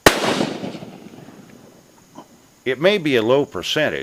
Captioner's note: bang